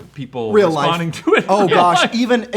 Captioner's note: laughs